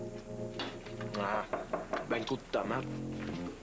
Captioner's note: On frappe à la porte